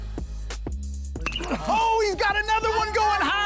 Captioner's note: bat hits ball